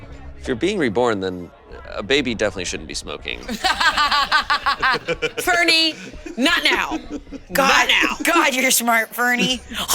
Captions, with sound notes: - If you're being reborn, then a baby definitely shouldn't be smoking. - (laughs) Fernie, not now! - God, you're smart, Fernie.